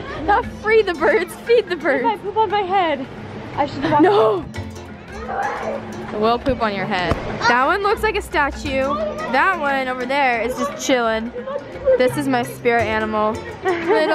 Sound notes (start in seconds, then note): 5.2 screaming; 13.5 laughing